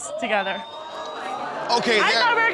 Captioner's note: audience exclaiming